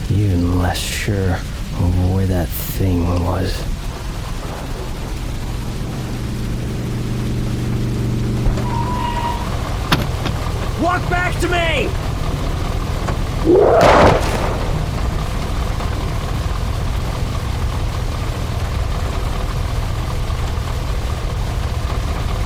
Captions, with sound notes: 'Even less sure of where that thing was.' [truck motor appraoching] [breaks squeak] [door opens] -Walk back to me! [creature roars] [gun BANGS!]